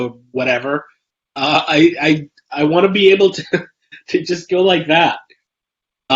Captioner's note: laughs